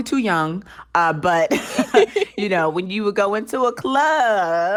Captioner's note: laughter